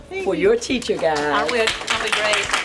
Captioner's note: clapping